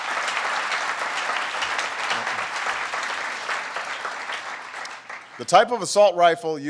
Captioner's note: applause